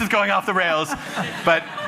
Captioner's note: laughter